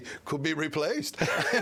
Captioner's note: laughter